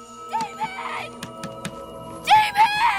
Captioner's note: Banging On Window